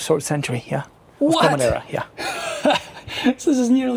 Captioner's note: laughs